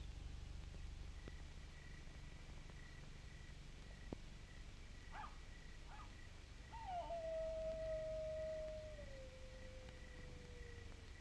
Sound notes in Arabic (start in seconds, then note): 6.7 نباح وعواء الذئاب